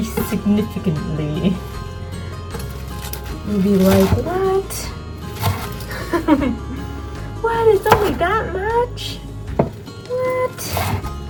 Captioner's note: laughter